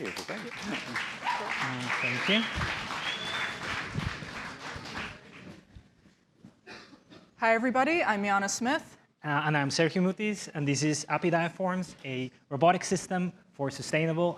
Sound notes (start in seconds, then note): 3.1 applause